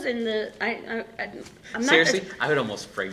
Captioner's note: laughing